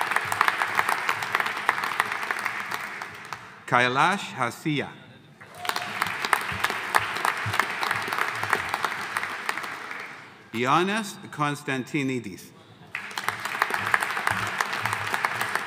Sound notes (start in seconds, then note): 0.0 audience applauding; 5.4 audience cheering; 5.4 audience applauding; 12.9 audience applauding